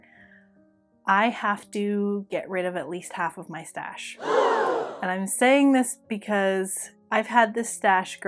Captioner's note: gasp!